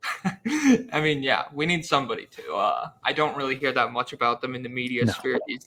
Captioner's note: laughs